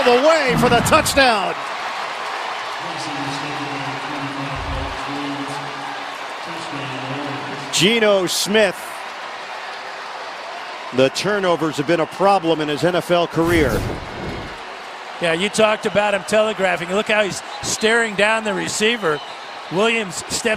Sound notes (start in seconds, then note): 8.3 cheers and applause